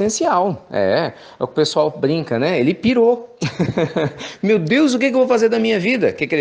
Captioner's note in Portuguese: risos